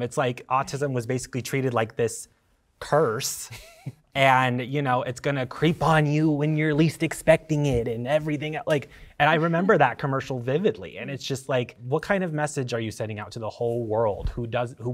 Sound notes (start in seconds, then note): 3.5 chuckling